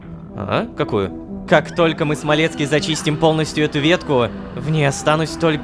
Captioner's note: screams in the background